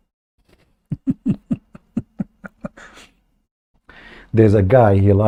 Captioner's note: Ketawa